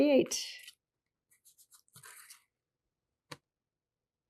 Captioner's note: pauses 8 seconds